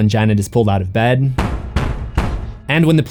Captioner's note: knock knock knock